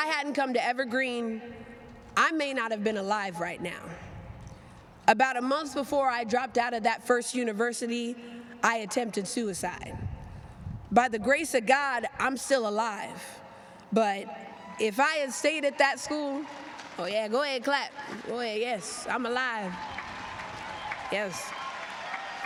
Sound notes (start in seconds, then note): 19.4 applause